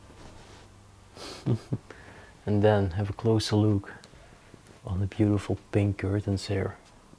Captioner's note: laughs